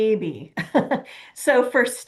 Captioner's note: chuckling